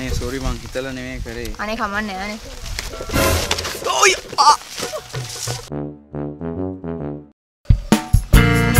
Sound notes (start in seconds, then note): 4.4 screams